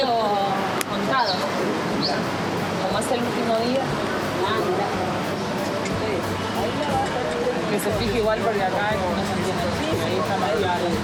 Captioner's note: speaking In Foreign Language